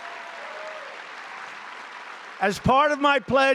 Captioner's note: applause